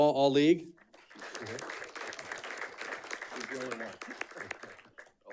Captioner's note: audience clapping